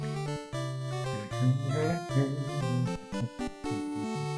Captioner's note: humming along